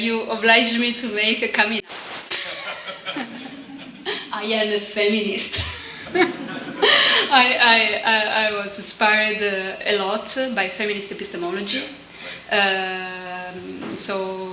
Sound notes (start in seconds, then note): 5.6 laughter